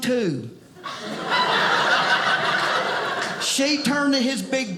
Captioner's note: audience laughing